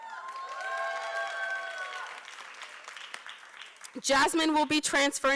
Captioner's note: applause